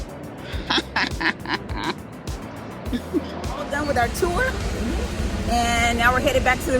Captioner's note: laughing